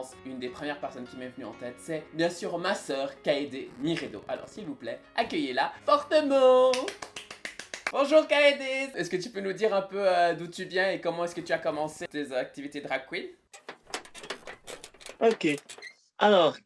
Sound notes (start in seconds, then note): 6.7 clap